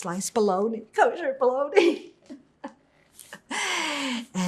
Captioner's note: laughing